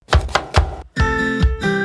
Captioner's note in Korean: 칼도마소리